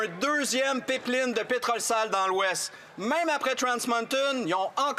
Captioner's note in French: voix de l'interprète